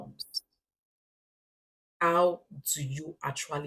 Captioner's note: paause